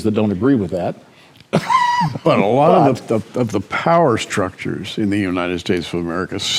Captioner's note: chuckles